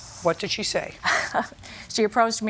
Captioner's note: laughs